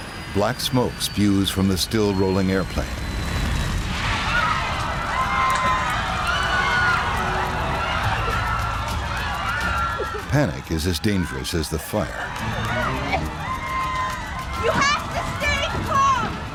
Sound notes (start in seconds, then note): 3.2 flames crackling; 4.0 screaming